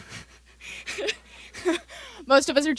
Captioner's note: laughter